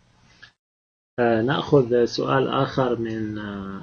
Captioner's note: speaking Arabic